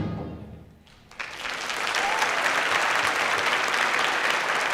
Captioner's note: clapping